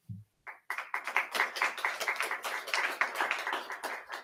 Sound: audience clapping

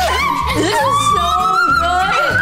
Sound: screaming

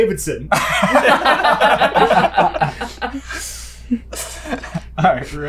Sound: laughter

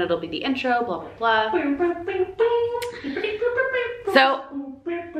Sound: mimics music

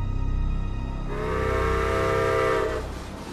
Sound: train whistle

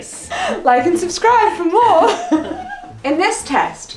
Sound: laughs

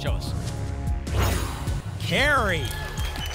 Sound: whoosh

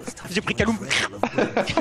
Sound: laughs; slirp

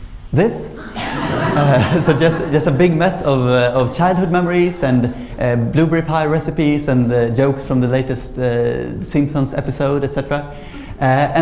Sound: laughter

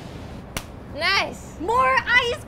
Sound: claps

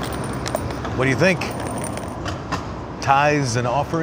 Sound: coins clinking

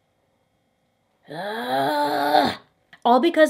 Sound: groans

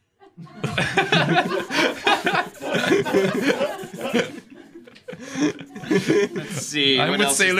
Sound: laughter

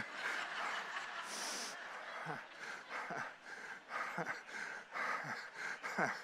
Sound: congregation laughing; laughing

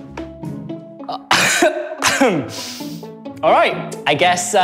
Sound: coughs

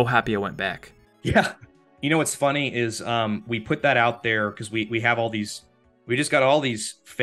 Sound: laughs

